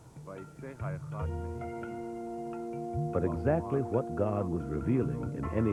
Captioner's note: man Speaking In Hebrew